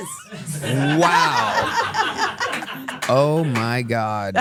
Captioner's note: everyone laughs